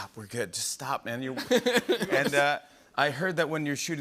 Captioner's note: laughter